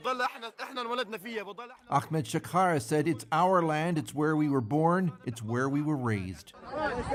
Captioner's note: speaking alternate language